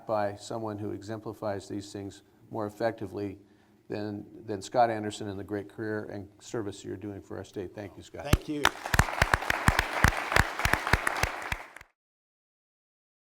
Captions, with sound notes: by someone who exemplifies these things more effectively than Scott Anderson and the great career and service that you're doing for our state. Thank you, Scott. Thank you. [APPLAUSE]